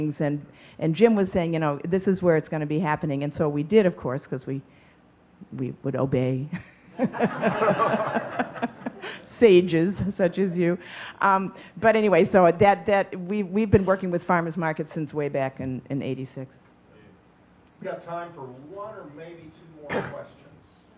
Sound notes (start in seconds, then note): 6.9 audience laughing; 7.0 laughing